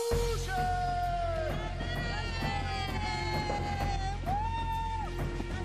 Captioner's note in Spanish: grita